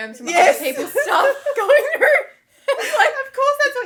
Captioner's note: laughing